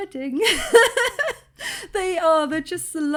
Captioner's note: laughing